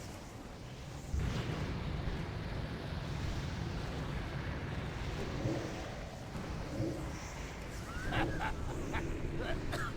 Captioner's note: laughs